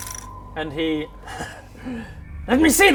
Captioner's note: worrying laugh